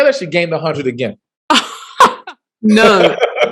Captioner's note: laughs